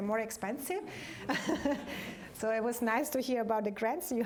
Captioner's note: laughter